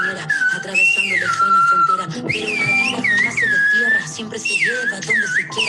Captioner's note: video sound continues with whistles